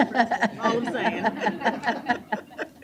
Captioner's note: chuckles